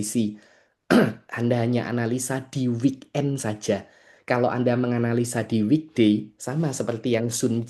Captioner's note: berdehem